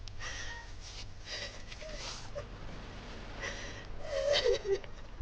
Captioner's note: crying